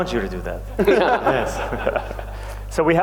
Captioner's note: laughter